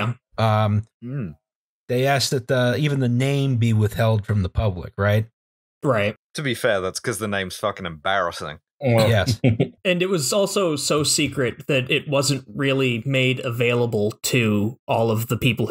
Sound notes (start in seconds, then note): 9.0 laughter